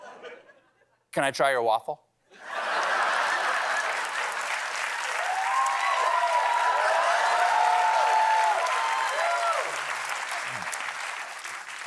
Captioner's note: cheers and applause